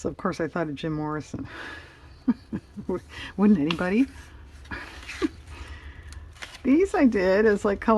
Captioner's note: laughs